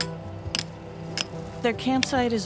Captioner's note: hammers clanking